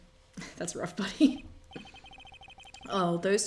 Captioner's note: laughs